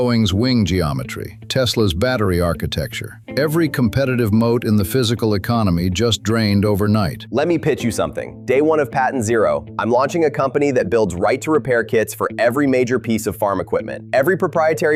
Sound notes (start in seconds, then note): 7.9 excited